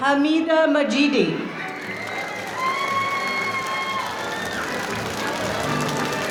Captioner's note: audience cheering